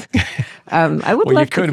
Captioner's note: both chuckle